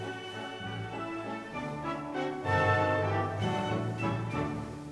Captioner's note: fabric rustling